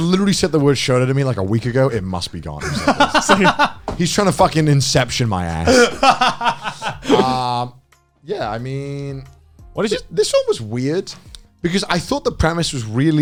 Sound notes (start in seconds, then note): 2.6 laughing; 5.6 laughing